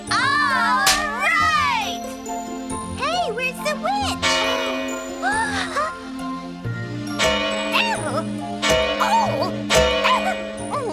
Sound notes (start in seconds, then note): 4.4 clock bell ringing; 7.8 witch crying out